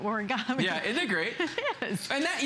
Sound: laughter

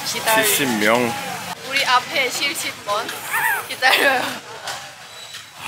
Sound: laughing

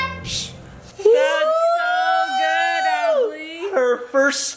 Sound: dad hooting

